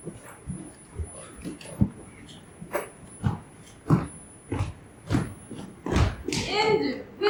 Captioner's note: growling